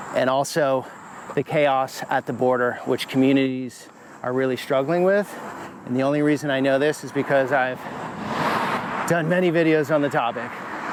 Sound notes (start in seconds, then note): none